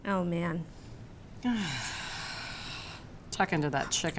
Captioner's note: sighs